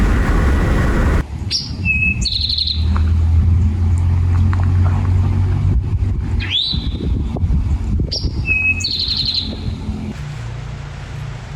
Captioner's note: A dynamic bird makes his call warning other birds to stay off his lawn